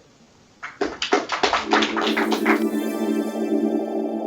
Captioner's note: applause